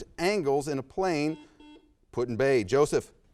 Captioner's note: buzzer sounds